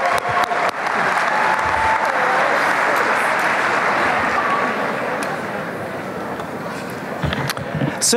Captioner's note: applause; crowd murmurs